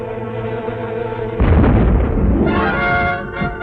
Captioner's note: boom